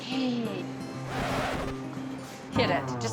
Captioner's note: record scratching sound